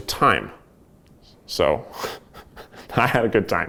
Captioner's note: laughs